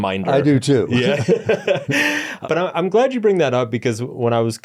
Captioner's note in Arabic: يضحك